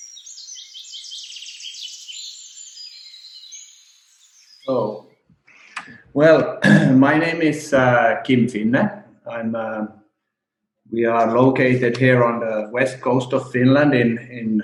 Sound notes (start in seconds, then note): 2.3 sounds of birds chirping ending